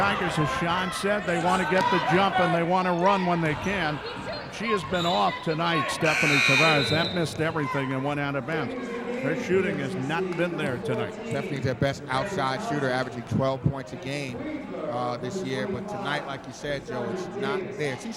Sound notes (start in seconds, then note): 5.7 referee whistling; 6.6 buzzer sounding